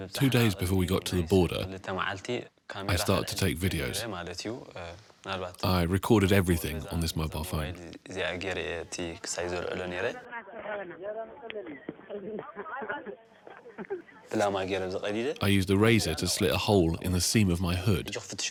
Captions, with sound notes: Two days before we got to the border, I started to take videos. I recorded everything on this mobile phone. [Tigrinya spoken audio] I used a razor to slit a hole in the seam of my hood.